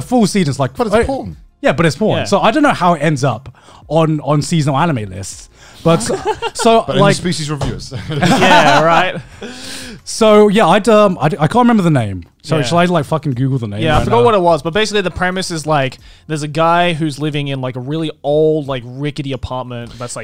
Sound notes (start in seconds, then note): 7.9 laughs